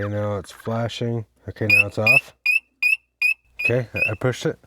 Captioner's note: operator beeping